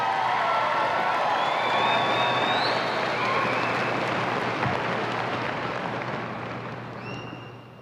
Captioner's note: applause and cheers